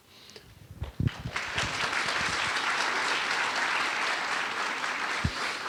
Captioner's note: audience applauding